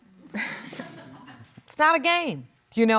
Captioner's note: laughing